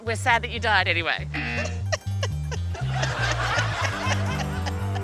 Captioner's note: feigns sobbing